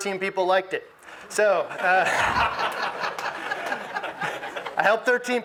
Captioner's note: audience laughs